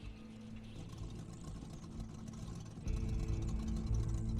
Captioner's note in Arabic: تشغيل الموسيقى على وسادات الأذن; طقطقة المحرك